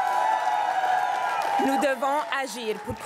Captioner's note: crowd cheering and applauding